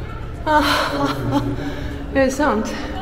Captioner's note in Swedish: skratt